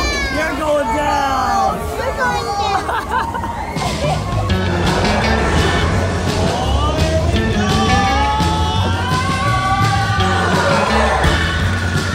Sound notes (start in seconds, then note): 2.6 laughing; 8.4 exciting music